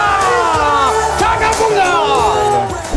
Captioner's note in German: Jubelruf